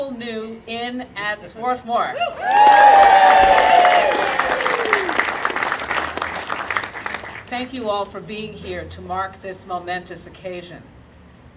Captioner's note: audience applauding and cheering